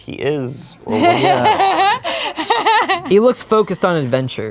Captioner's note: laughs